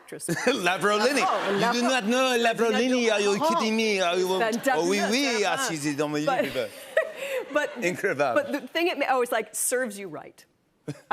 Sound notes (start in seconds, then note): 0.2 French accent; 4.1 speaks French